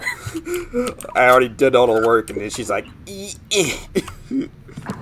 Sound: grunts like he's throwing something

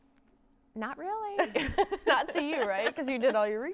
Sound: laughs

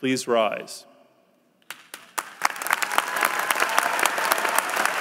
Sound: applause

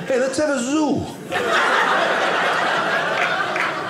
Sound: audience laughing

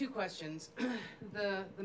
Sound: clearing voice

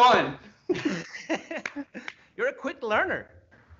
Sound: laughs softly

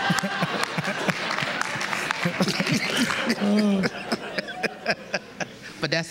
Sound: laughter

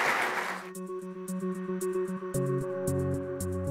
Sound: applause

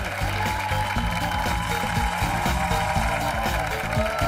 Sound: cheers and applause

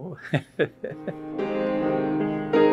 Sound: laughs; soft piano music

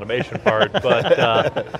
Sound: laughing

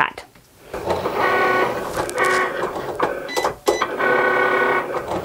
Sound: machine whirs

